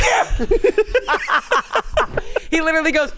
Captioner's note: everyone laughs